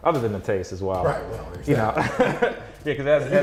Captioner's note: laughs